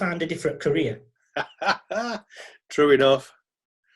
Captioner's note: laughing